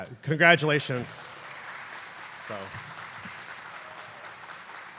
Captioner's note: applause